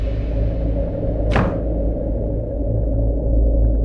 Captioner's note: Cupboard door closes